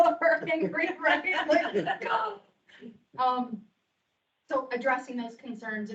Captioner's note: members laughing